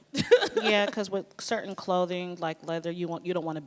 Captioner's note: laughs